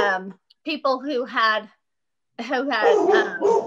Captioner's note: dogs barking